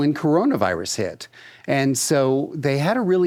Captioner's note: none